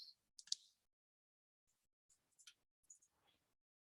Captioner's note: mouse clicking